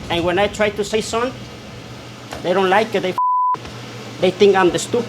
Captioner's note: beep